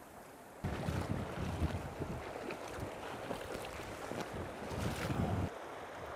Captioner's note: splash